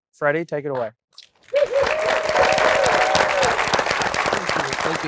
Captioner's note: cheering and applause